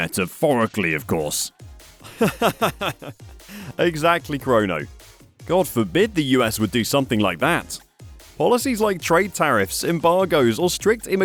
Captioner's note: laughs